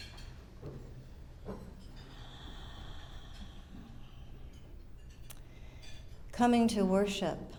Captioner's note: breathes deeply